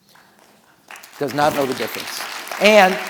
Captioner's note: audience applauding